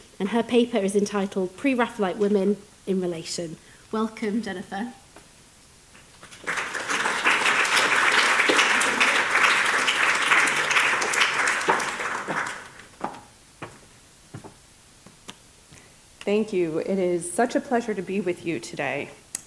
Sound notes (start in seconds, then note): 6.1 audience applauding